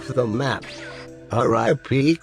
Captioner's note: DragonBall teleport sound